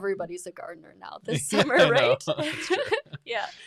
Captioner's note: laughs